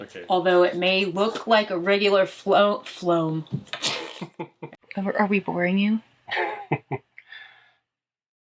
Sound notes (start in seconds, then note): 6.3 laughs